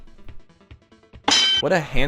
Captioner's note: unplanned ding